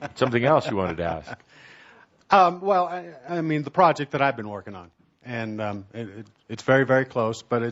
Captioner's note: chuckling